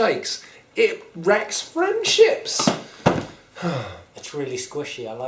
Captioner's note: sighs